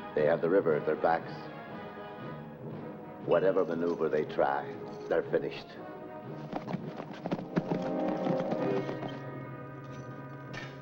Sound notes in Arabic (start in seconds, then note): 6.3 ضربات حوافر; 6.6 موسيقى تشويقية